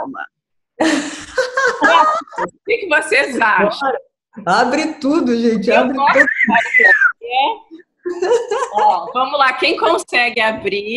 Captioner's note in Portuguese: risos